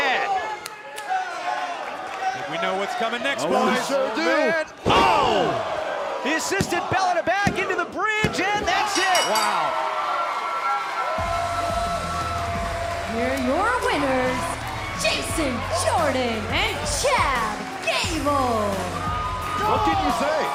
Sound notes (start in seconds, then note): 8.9 bell ringing; 11.3 crowd cheering